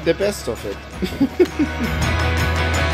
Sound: laughter

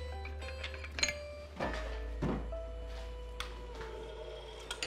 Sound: metals clanking

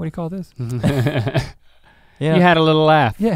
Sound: laughs

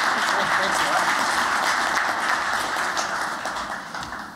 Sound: applause

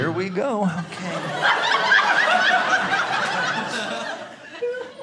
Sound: audience laughing

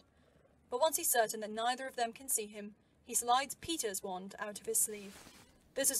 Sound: sleeve rustling

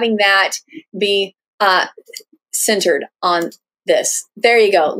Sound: clicking

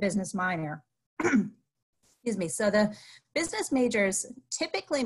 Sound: clears throat

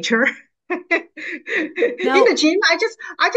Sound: laughs

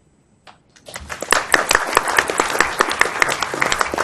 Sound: applause

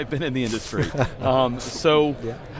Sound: laughter

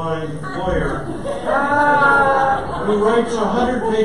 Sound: audience laughter

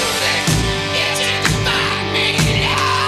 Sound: claps

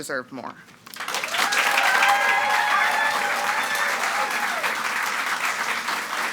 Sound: audience cheering and clapping

